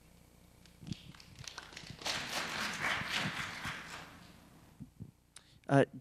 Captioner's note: applause